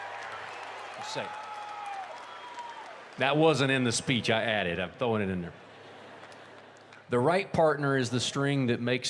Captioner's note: cheers and applause